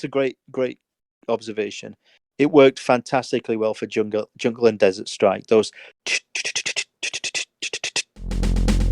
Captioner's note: snare drum beatboxing